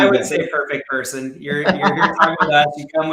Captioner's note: laughing